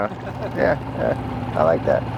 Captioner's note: chuckles